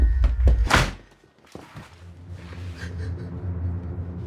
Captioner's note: door slams; Joe sobbing